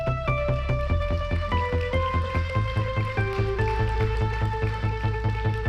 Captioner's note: hopeful music; audience applauds